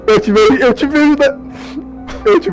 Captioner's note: sniff